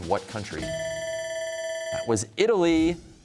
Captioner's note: bell ringing